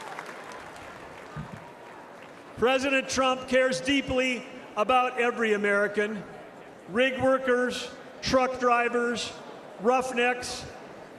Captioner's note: applause